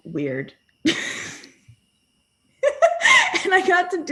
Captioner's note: laughing